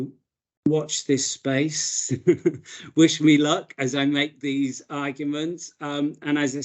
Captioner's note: chuckles